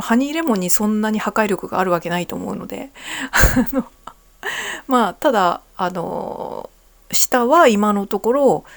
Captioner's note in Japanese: 笑い